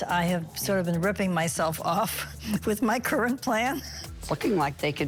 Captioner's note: gasps